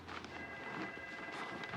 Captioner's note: telephone ringing